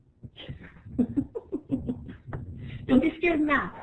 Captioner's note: laughing